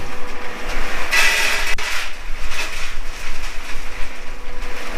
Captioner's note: coals clatter